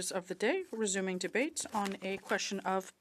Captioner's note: speaking French